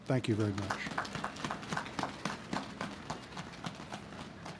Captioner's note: audience claps